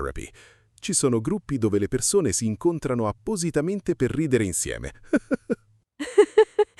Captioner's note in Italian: risate